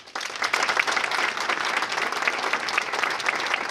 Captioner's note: applause